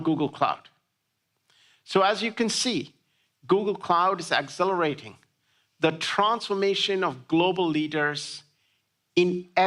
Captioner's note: none